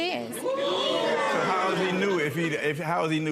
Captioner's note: audience oohs